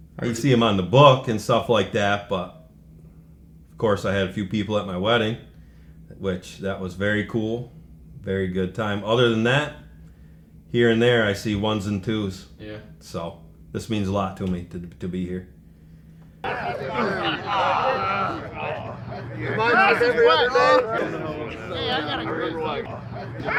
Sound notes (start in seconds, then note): 16.4 group chattering; 23.3 group laughing